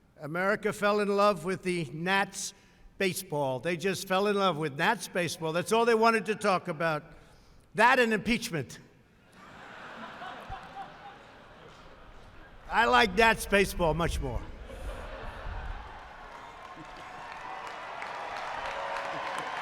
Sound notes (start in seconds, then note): 9.2 laughter; 14.6 laughter and applause